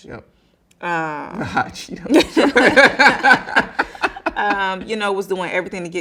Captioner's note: both laughing